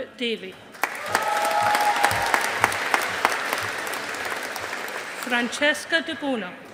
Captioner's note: audience applauding